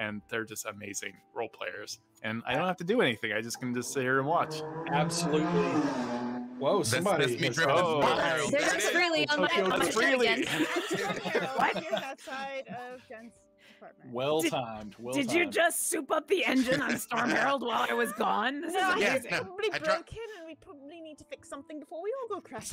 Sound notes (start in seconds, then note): 3.8 loud car zooming noise